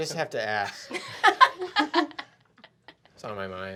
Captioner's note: laughing